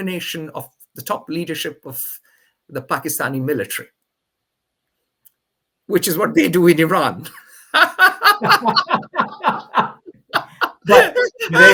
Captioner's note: both laugh